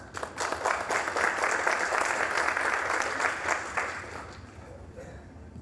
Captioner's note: applause